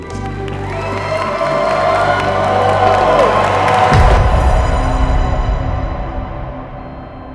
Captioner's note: guests cheering; dramatic music